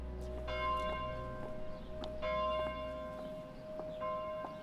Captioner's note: bells tolling softly